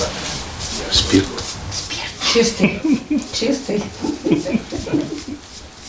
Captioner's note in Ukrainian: тихо